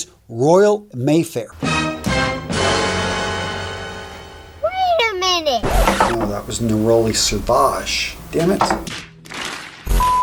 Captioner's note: sound effect